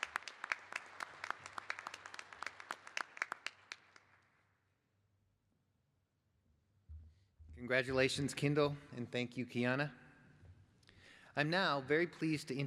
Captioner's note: applause